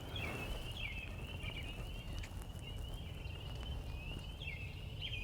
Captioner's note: birds chirping